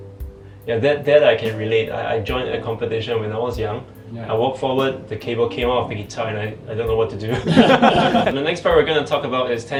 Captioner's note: laughing